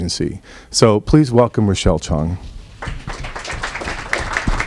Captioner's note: applause